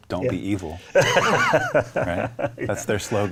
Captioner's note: laughing